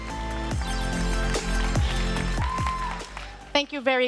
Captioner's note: modern music; applause